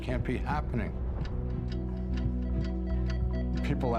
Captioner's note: clock ticking